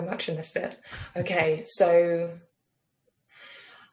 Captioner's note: chuckles